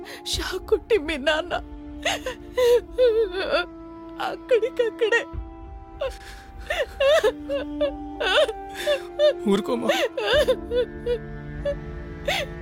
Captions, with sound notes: He got electrocuted (Mom crying) And he died on the spot. (Both crying) Please control yourself, mom!